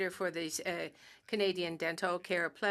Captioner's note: speaking French